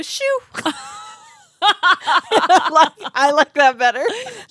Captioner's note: girls laughing